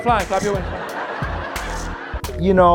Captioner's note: audience laughs